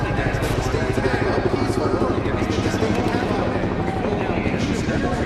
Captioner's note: helicopter sounds